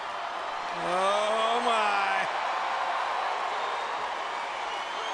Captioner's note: crowd cheering